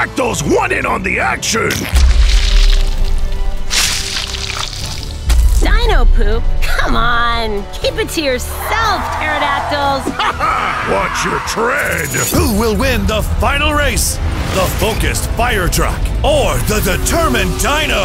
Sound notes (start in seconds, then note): 1.6 splat, pile of dino poop falling